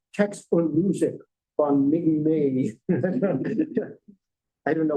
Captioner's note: laughter